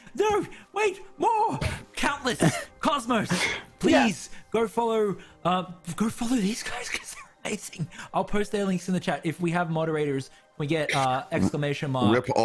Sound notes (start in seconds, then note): 6.6 runs out of breath